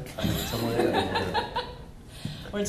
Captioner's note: laughs